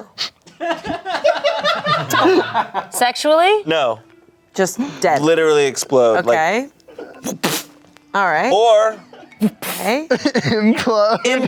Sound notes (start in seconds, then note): 0.6 everyone laughs; 7.3 imitates explosion